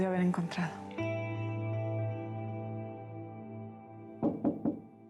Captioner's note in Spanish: toques en la puerta